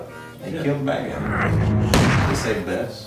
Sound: boom

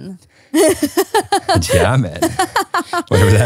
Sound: laughs

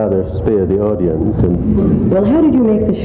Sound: audience laughs

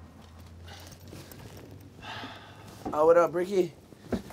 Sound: breathing heavily

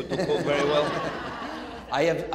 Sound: audience laughing

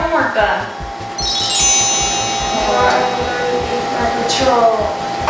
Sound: sparkle sound effect

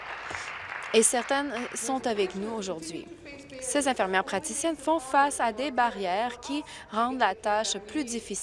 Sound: applause

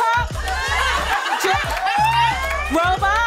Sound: laughter

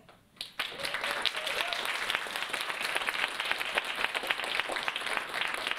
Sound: audience applauding and cheering

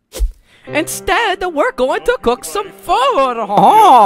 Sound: epic italian accent

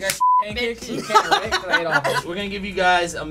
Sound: laughter

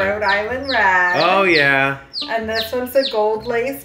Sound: chick chirping

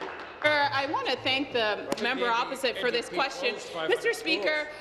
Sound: applause

